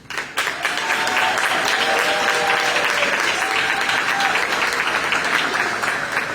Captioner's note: applause